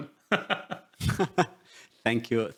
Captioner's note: laughs